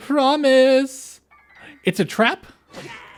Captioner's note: gasp